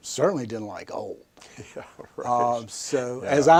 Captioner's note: chuckles